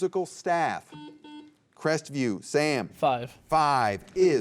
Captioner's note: buzzer beeps